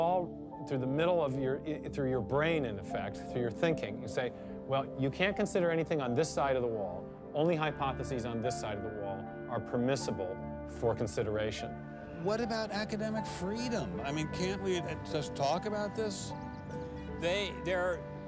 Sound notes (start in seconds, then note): none